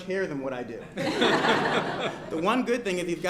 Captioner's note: laughter